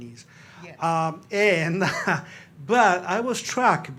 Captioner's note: laughs